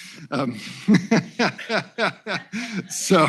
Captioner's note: laughter